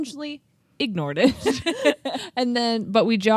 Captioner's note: both laughing